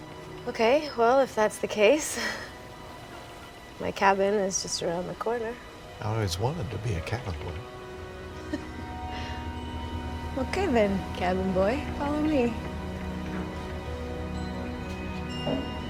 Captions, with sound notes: - Okay, well, if that's the case, my cabin is just around the corner. - I always wanted to be a cabin boy. (Sarra chuckles) - Okay then, cabin boy, follow me. (gentle music)